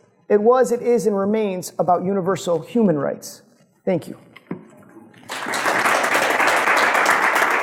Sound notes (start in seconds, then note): 5.2 applause